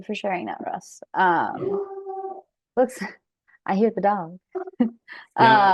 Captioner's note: dog howls